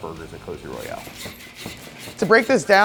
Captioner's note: saw scraping